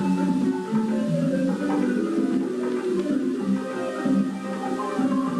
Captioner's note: tv running